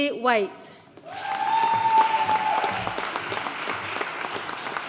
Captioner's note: audience cheering and applauding